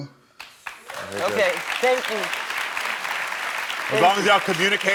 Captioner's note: audience applauding